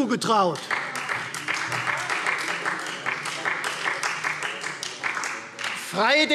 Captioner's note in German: Beifall Freie Demokraten